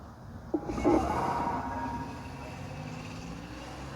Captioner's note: telephone noise